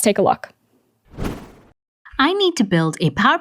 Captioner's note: air whooshes